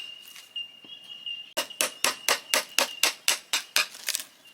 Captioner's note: hammer tapping continues